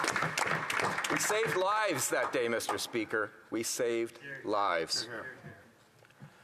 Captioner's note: some Applause